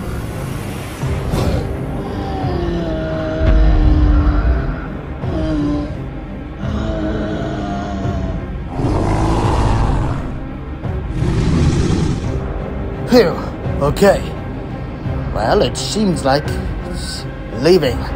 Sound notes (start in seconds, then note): 1.0 Triceratops growling and stomping